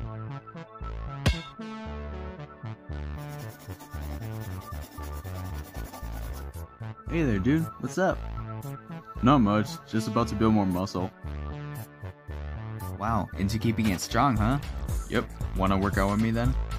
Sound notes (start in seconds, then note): 1.2 ball bounce